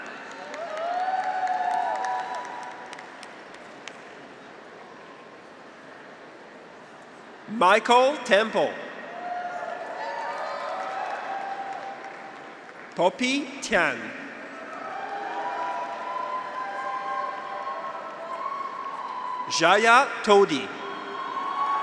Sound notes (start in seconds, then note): 0.0 audience applauds; 0.2 graduates cheer; 9.0 graduates cheer; 10.1 audience applauds; 14.2 graduates cheer; 14.8 audience applauds